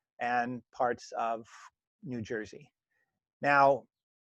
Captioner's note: brief pause